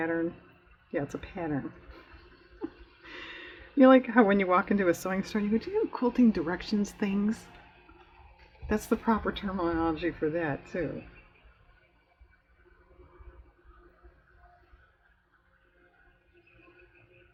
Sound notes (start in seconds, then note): 1.8 laughs